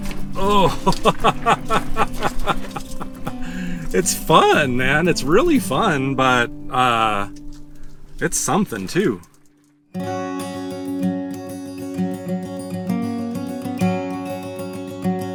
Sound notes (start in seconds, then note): 0.2 laughing